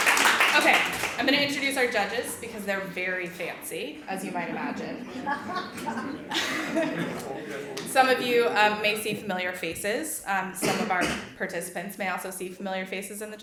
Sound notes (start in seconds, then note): 5.5 audience laughs